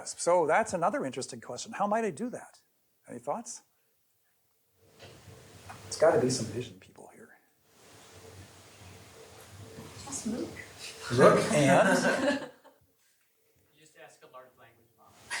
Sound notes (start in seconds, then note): 11.0 laughter